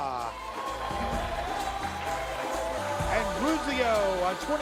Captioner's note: audience cheers